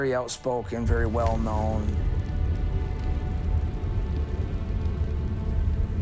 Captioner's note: fire whooshes and crackles